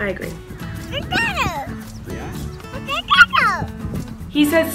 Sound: baby talk

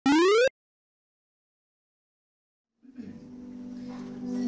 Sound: vintage arcade game sound

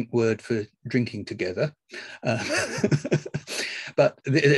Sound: laughs

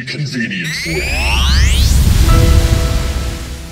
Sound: space Sound Effect

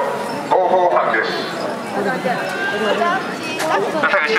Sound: voices speaking on loudspeakers

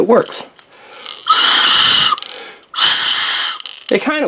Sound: whistles

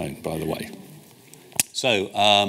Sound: audience chattering

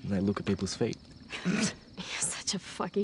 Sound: laughter

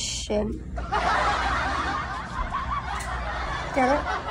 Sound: laugh track

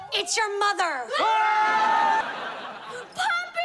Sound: screaming

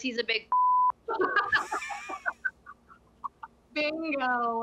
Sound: laughter

